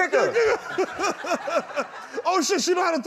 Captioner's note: laughter